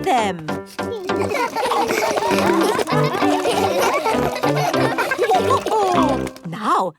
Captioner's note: all laugh